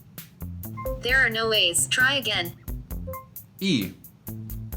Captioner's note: voiceover